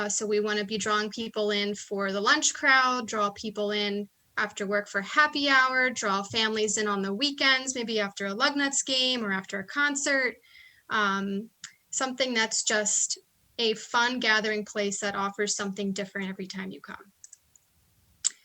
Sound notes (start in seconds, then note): none